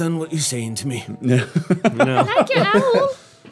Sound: laughing

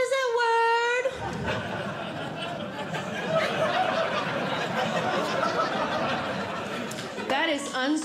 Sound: audience Laughing

